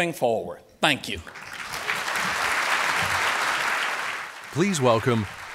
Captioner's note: applause